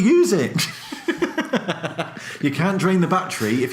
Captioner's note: both laugh